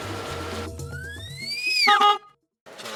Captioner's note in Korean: 전동 휠체어 소리; 경적 소리